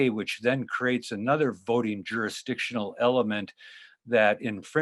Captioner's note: none